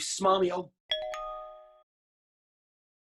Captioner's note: text message alert